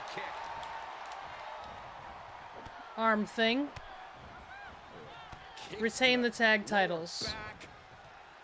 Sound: applause

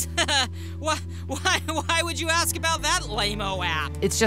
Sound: chuckling nervously

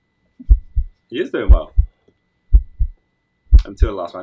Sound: heart beating; heart beating

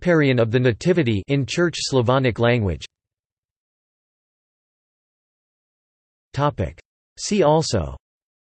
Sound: in Church Slavonic language

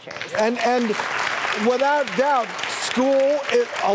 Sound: audience clapping

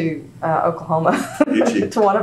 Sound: laughs

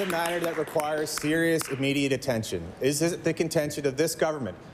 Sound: applause

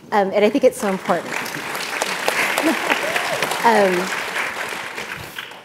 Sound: audience applauding

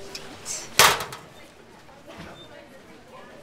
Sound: she slams the locker door

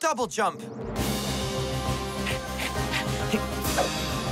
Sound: panting

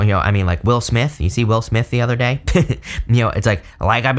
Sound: chuckles

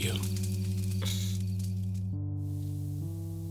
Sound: Turtledove exhales

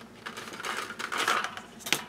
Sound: rattling

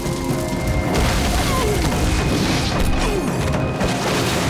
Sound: groaning

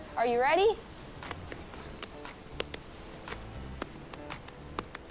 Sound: hands patting

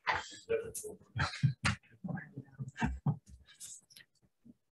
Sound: group chattering

